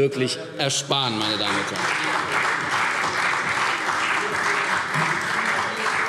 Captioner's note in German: Beifall CDU